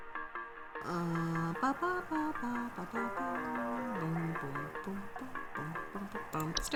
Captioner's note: humming